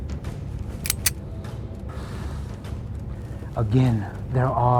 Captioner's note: gun clacking